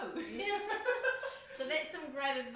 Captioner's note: laughs